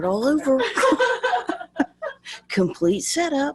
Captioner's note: laughing